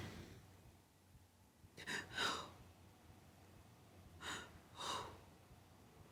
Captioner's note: breathes heavily